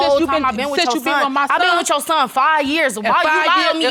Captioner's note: arguing